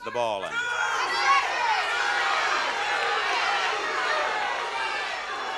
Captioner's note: audience clamoring